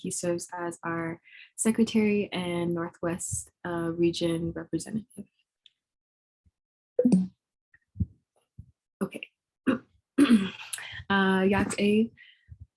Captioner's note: speaking Native Language